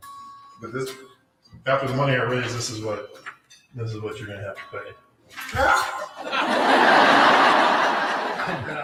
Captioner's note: laughter